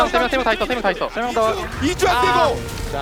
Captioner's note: BuZz